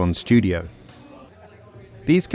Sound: people softly chattering

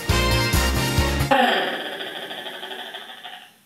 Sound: disco music; platypus chatter

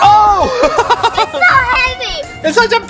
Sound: both laugh

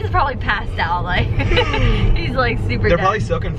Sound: laughs; yawns

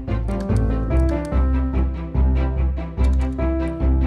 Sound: keyboard patters

